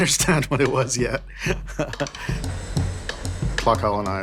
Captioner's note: laughs